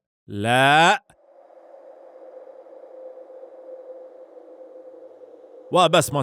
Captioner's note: wind howling